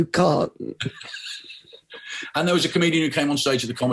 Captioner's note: both laughing